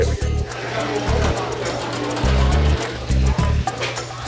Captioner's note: chatter